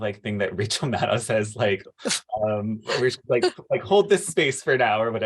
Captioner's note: laughter